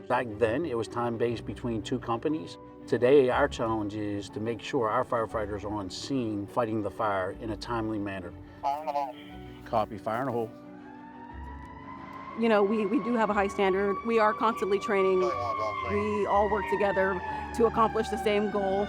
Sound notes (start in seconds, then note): 10.8 sirens blaring